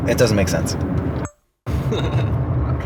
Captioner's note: camera recording sound